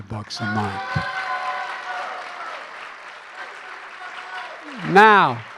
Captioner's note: applause